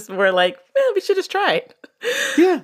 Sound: laughs

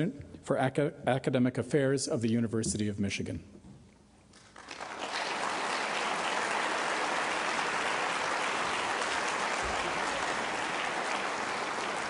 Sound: applause

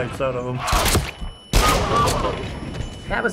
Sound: gunshot, squelch; gunshot, laughter

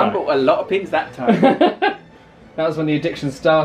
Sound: laughing

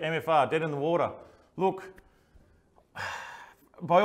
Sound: exhales

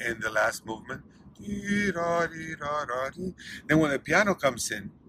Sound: humming theme

